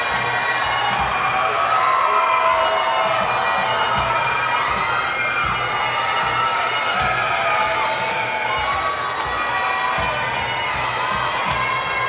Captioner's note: cheers and Applause